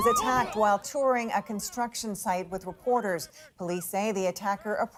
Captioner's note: speaking alternate language